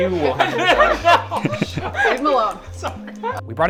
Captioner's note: laughing